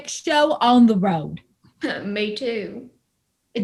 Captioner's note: wry laugh